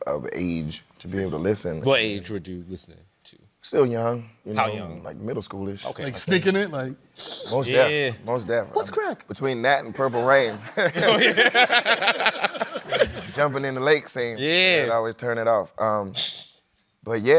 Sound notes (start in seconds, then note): 7.0 giggling; 9.9 laughter